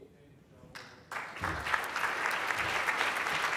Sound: applause

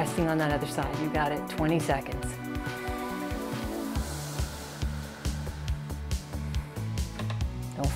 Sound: deep breathes

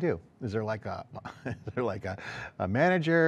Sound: softly chuckles

